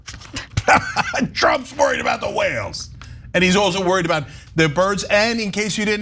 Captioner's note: laugh